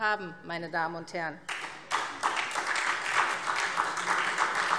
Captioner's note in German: Beifall SPD und DIE LINKE